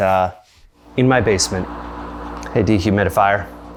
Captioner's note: dehumidifier whirs